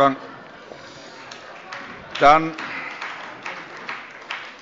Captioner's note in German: Heiterkeit und Beifall